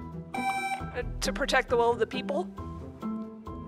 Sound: buzzer beeps

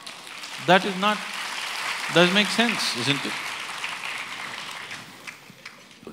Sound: applause

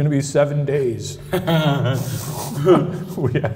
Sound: laughing

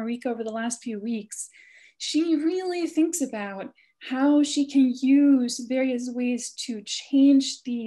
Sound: none

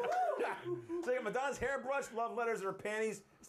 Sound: laughter

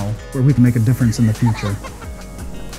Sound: laughing

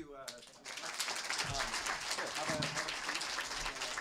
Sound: audience clapping

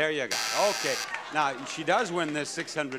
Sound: buzzer

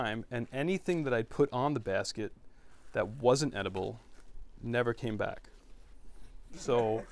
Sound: laughter

